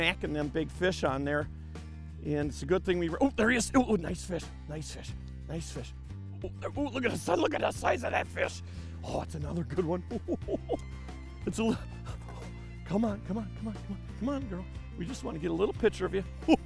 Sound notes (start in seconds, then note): 10.0 laughs